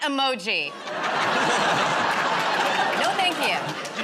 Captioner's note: laughter